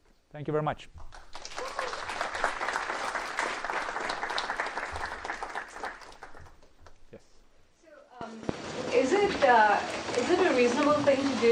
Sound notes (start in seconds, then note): 1.0 applause